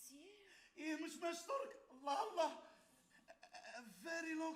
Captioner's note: man speaks Arabic